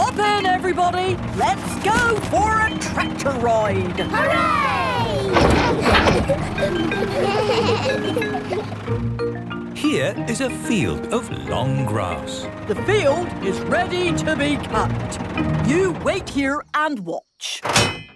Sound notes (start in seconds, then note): 4.2 giggles; 7.3 bleating